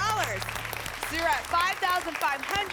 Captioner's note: applause